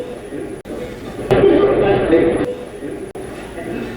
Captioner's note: radio voice